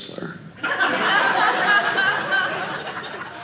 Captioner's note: audience laughing